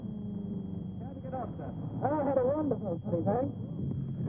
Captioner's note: men talking